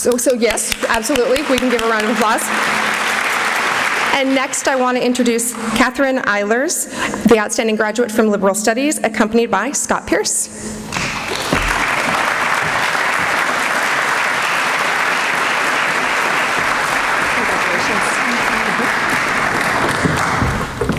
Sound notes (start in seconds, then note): 10.9 applause